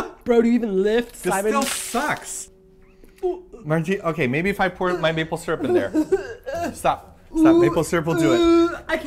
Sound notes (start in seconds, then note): 5.6 about-to-vomit sounds